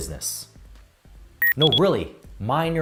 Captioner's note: electronic beep